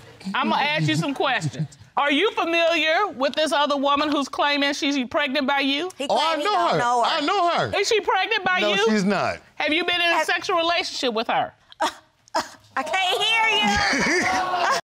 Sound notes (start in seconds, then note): 11.7 scoffs; 13.6 audience gasps